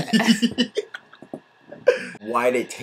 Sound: laughs

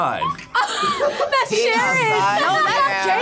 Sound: group laughs

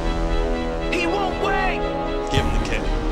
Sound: dramatic music; voiceover

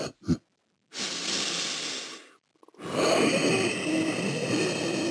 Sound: squid takes a deep breath

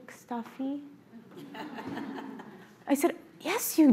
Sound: audience laughs

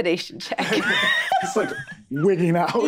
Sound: group laughing

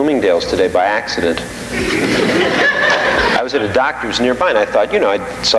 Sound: audience laughing

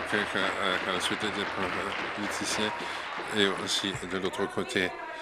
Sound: applause

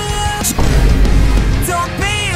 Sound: Vine Boom

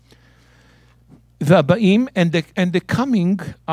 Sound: speaking in Hebrew

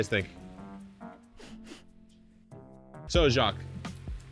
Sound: sniffing

